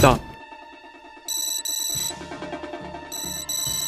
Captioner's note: phone rings